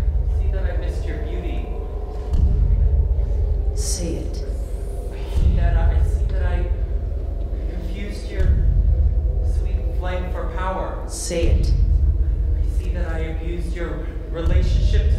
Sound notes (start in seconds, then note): 1.9 tense pounding; 1.9 wind howling